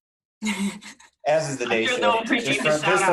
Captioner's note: laughing